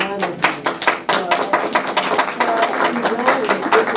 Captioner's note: clapping